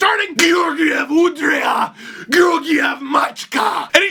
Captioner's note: in Bulgarian